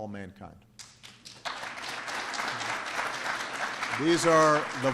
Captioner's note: applause